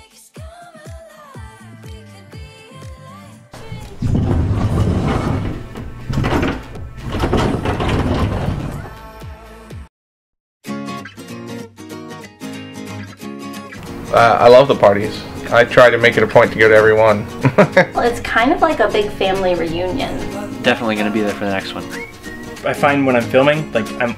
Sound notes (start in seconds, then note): 3.5 door sliding and clattering; 8.6 upbeat pop music; 10.8 bright cheerful music; 17.3 chuckles